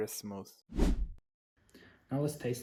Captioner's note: woosh